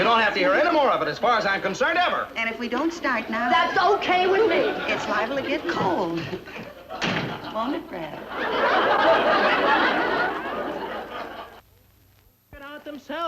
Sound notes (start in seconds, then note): 6.9 door bangs; 10.1 audience laughing